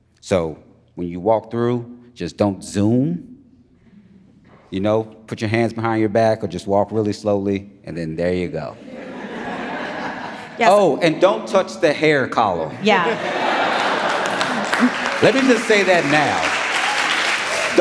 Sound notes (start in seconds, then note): 10.8 audience laughs; 12.7 audience laughing; 13.0 audience applauding